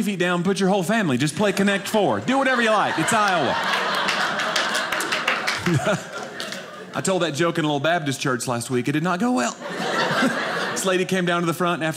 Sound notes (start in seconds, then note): 3.9 audience laughing